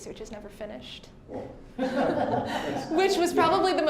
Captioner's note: all laughing